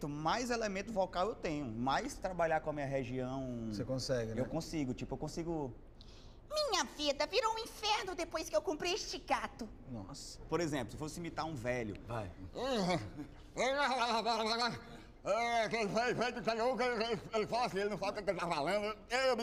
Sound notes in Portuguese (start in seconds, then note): 6.4 voz de mulher; 12.5 resmungos em voz de idoso